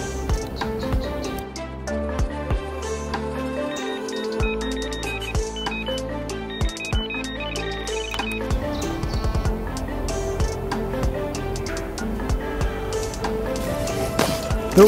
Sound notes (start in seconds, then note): 1.2 mellow music; 3.8 electronic beeping